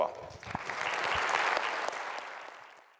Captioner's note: applause